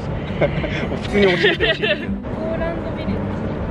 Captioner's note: haha